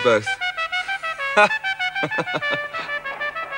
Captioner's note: laughing